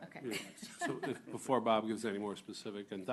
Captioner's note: laughter